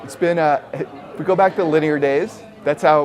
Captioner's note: laughing